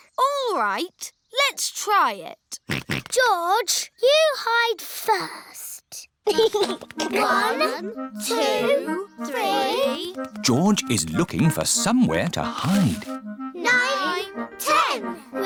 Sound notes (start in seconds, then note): 2.8 snorts; 6.2 chuckles